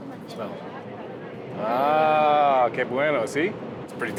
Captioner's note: speaking Spanish